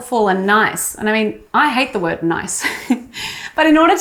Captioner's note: laughs